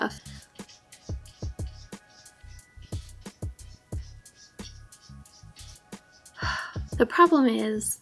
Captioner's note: sound of cat scratching on the side of the litter box